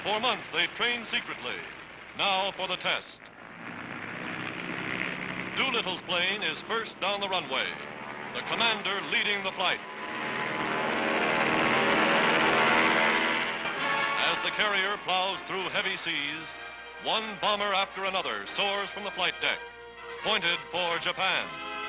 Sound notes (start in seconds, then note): 3.5 aircraft engine rumbling; 10.0 aircraft engines roaring